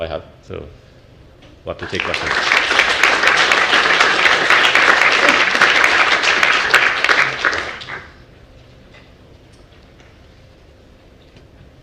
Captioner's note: applause